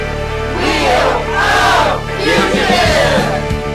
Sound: crowd; upbeat music continues

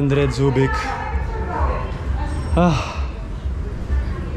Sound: sigh

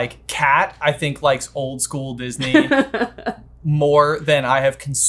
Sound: laughing

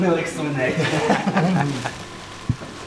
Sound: gloating laughter

